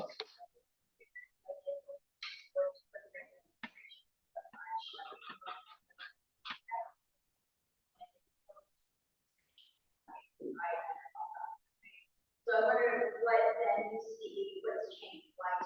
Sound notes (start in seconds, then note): 1.0 background chatter